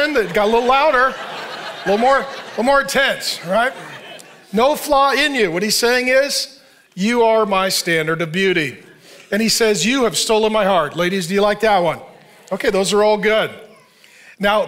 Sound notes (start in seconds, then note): 2.1 audience laughing